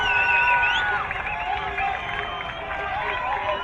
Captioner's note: crowd cheering